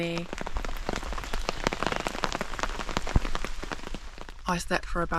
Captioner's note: rain